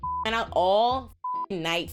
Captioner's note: beep